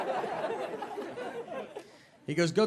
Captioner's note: audience laughing